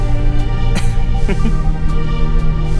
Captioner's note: chuckle